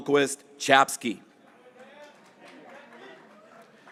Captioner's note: graduates cheering